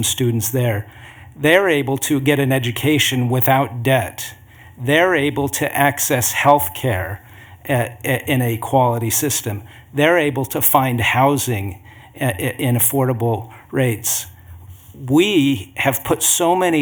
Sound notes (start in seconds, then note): none